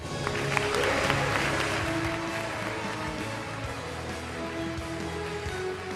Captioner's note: applause